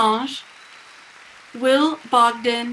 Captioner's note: people cheering